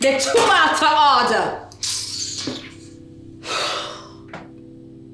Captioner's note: kisses teeth